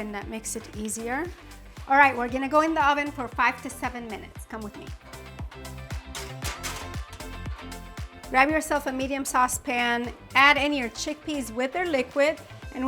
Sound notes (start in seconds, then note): 5.6 lively music; 6.0 pan clattering